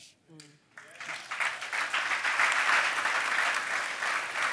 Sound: audience applauds

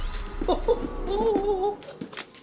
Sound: pulsates; sniggers

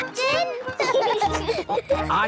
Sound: laughing

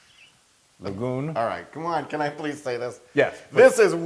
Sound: laugh

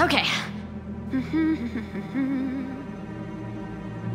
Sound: humming

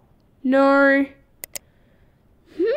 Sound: click!

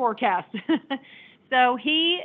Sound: laughing

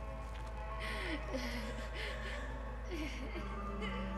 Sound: woman sobbing

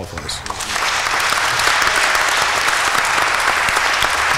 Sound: applause

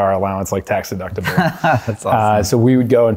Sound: laughter

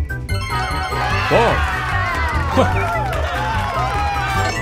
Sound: upbeat music; crowd cheering

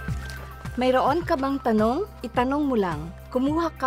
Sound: speaking in Tagalog

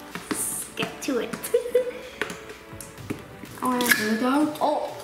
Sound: laughs

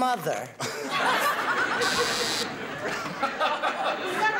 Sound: buzzing

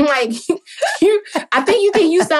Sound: laughing

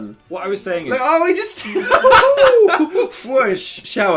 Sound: laughing

